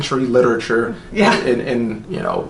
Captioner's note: laughs